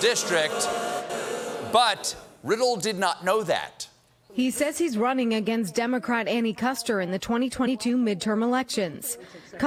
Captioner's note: booing